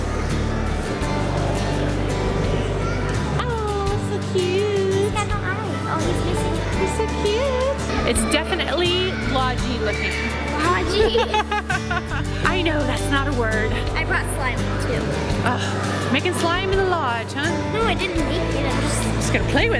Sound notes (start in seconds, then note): 4.6 exclaims; 10.1 laughing